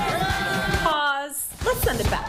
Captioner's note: applause